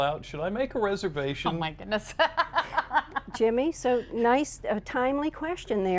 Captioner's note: laughter